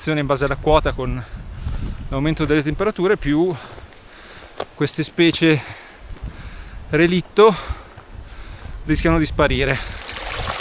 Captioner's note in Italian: sospiri